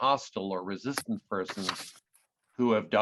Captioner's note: paper rustling